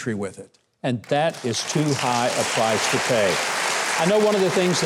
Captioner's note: applause